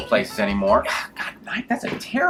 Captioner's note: exhales